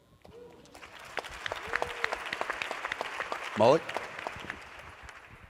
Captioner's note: applause